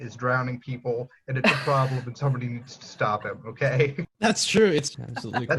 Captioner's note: laughter